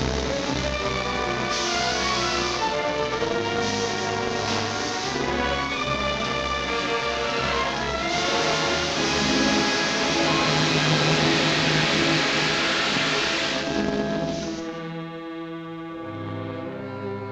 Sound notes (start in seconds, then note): 8.0 steam hissing; 14.4 dramatic music